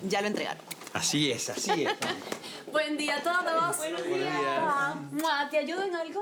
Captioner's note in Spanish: Risas